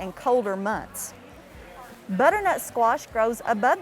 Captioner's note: people chattering